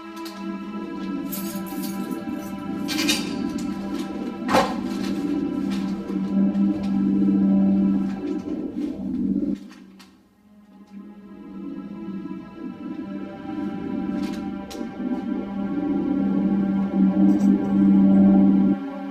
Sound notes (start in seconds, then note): 0.0 somber music; 1.3 keys jingling; 1.3 keys clanking; 10.8 somber music